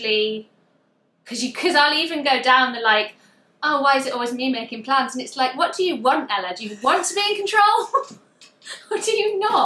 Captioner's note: laughs